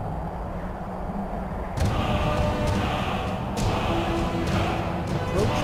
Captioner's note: chanting